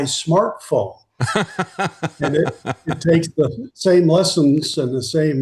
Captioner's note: laughing